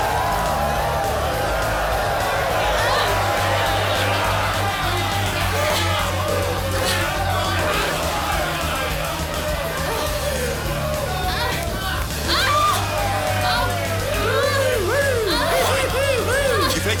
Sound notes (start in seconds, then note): 3.0 women grunting; 7.2 men cheering; 12.2 woman grunting; 14.0 men cheering